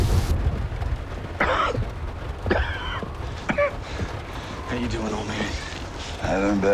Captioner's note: coughing